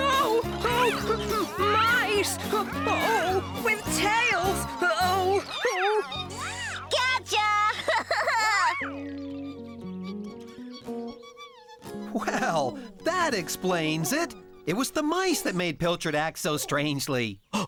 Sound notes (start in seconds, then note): 7.5 laughing; 8.9 squeaking